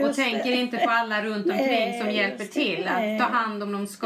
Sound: foreign language

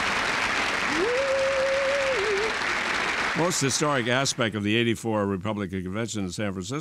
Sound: applause

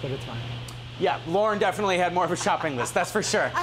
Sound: laughing

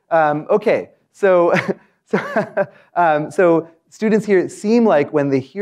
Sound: laugh

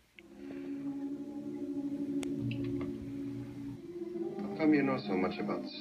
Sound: audio playing from film

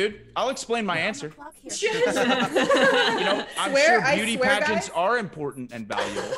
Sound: laugh; laugh

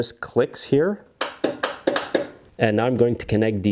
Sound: switch flipping

